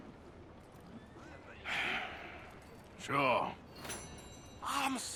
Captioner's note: sighs